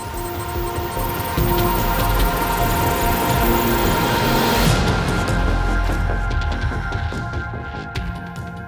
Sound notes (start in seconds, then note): 0.0 beeping